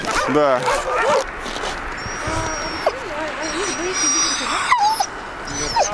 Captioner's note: whining dogs